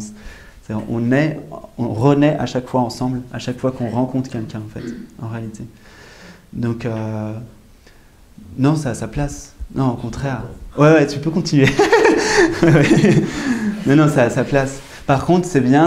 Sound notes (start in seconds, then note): 11.7 laughs